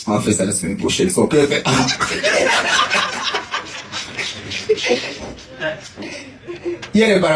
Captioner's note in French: rires